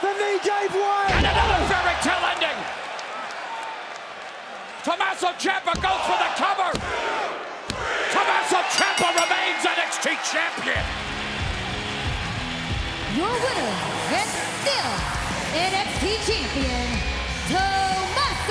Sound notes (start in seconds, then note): 8.7 bell rings; 10.7 rock music plays; 11.7 crowd cheers